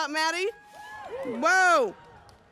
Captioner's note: audience cheers